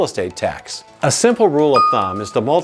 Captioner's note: bell dings